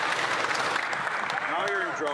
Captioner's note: some Applause